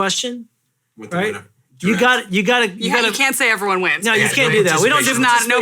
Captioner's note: softly mumbles